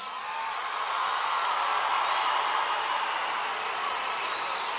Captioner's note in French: le public exulte